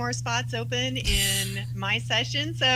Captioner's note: snicker